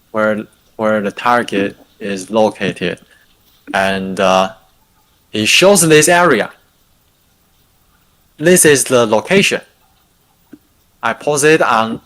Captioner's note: non-english speech